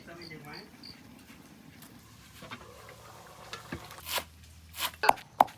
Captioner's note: sound of wood stove